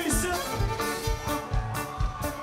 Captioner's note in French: cris d'enthousiasme